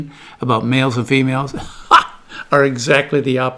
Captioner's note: laughs